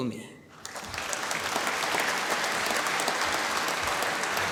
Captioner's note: applause